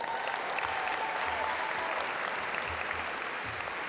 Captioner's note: audience applaud